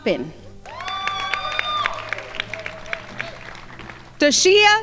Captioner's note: crowd applauding